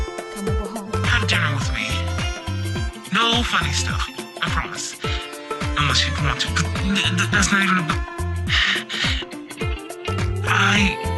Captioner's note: sigh